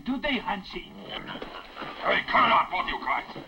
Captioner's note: Jumper chokes